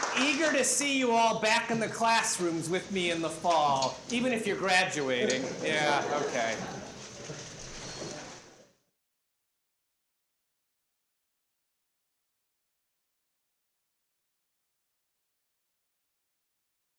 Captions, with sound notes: Eager to see you all back in the classrooms with me in the fall, even if you're graduating. [LAUGHTER] Yeah, OK.